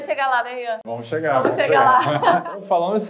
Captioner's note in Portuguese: risos